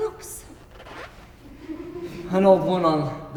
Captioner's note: audience laughs softly